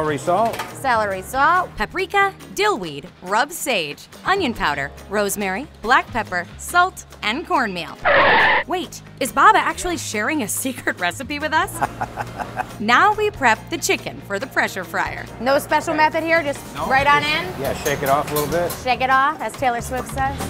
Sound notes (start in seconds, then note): 8.0 brakes squealing; 10.8 laughing